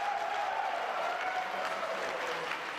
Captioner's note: applause